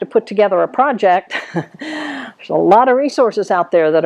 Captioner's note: laughs